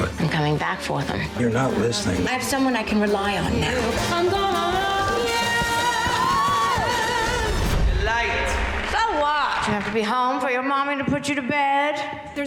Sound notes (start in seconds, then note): 6.0 screaming